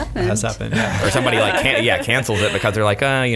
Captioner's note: laughs